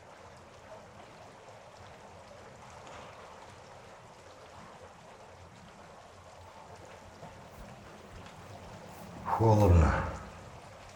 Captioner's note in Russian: звук воды